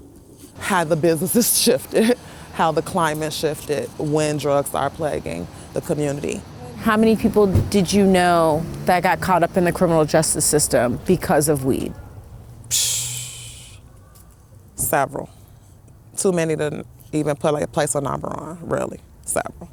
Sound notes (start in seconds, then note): 12.7 exhales